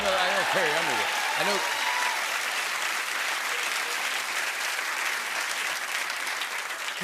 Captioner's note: cheering and applause